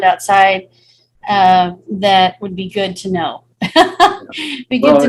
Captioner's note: chuckling